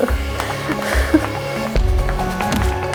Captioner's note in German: Nervöses Lachen; Unruhige, angespannte Musik